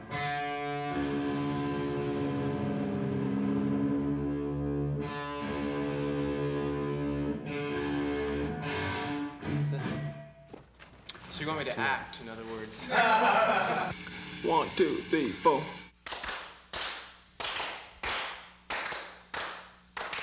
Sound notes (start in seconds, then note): 6.1 instruments tuning; 12.8 laughter